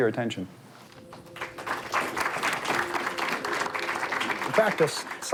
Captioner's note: audience clapping